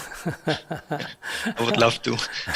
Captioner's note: Sunim laughter